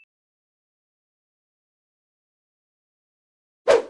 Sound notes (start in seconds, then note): 3.7 air whooshing